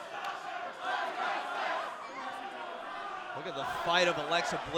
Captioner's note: fans chanting